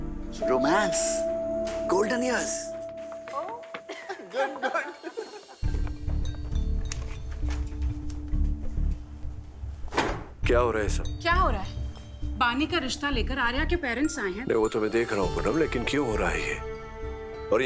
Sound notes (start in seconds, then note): 3.9 All laughing; 9.8 Door closes